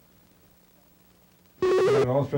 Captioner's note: buzzing/beeping